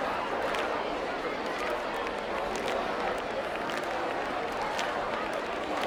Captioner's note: crowd clapping and chattering indistinctly